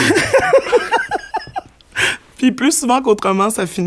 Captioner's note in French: éclat de rire